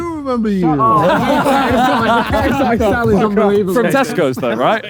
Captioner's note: group laughs